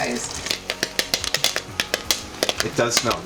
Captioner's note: popping